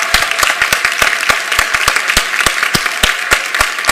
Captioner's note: applause